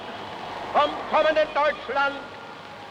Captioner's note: hitler speaking german